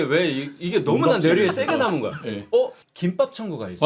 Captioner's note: bursts into laughter belatedly